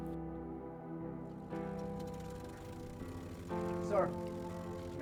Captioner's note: engine running in background